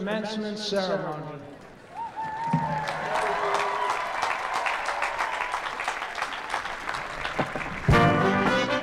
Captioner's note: applause